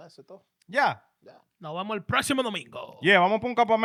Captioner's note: speaking In Foreign Language